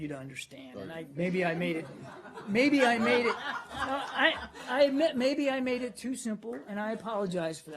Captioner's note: laughter